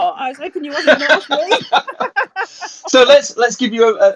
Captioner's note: laughing